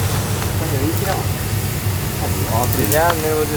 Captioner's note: people chattering